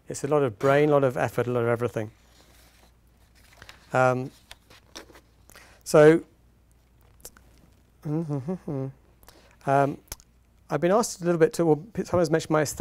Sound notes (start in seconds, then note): 8.0 humming